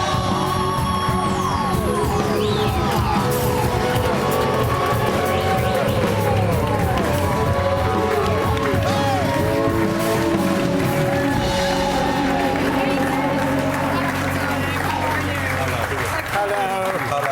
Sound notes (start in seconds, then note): 10.0 applause